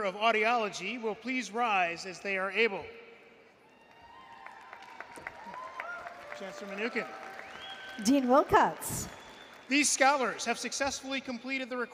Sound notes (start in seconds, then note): 3.6 applause & Cheering